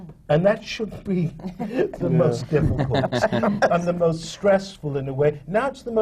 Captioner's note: laughs; laughter from the panel